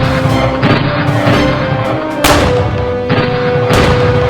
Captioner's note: guns firing